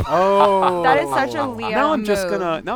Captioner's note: laughter